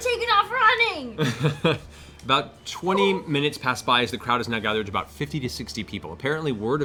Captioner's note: laughs